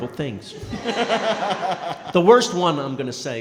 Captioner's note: & crowd laughing